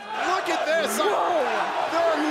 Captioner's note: fans chanting